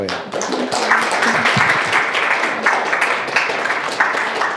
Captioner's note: applause